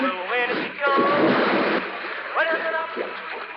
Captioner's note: water splashes